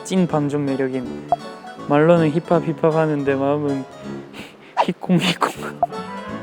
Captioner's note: cute sound of heartbeat